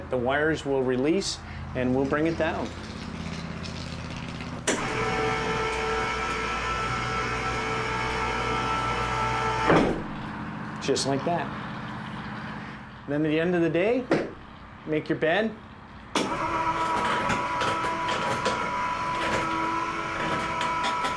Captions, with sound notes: - We’re gonna lower it, the wires will release and we’ll bring it down. (motor whirring) Just like that. And then at the end of the day make your bed. (motor whirring)